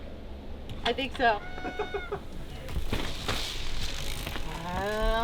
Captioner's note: laughs